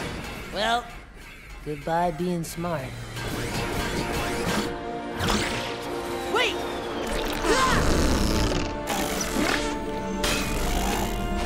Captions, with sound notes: Well, goodbye being smart. Wait! [grunting]